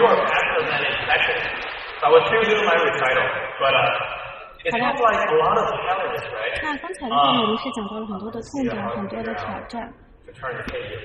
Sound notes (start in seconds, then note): 3.6 speaking echoing English; 7.1 foreign language